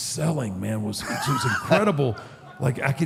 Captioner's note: AJ laughs